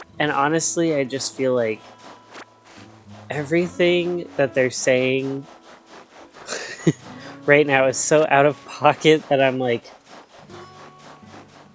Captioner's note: giggle